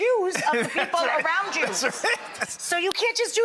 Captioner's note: crowd laughing